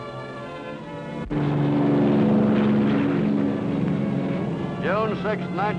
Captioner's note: airplane buzzes